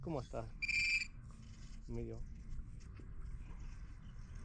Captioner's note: beeping